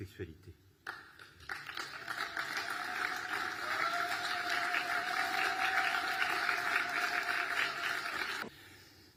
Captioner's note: applause